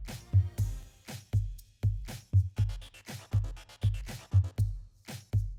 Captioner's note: slow 80’s clap - not sarcastic